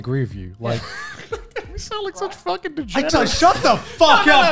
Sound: laughs

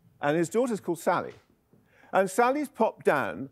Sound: none

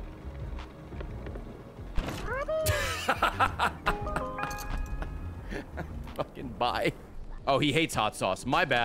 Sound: laughs

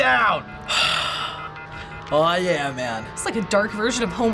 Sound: phone line beeping; sighs deeply

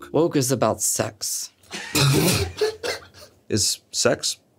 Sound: everyone laughs

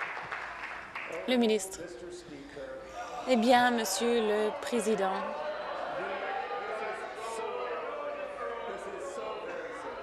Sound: applause

